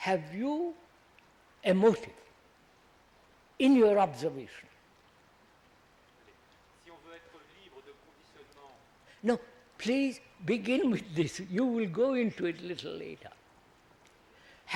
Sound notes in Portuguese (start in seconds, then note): 7.6 Francês